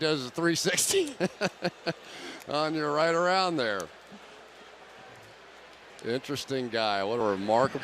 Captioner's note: laughs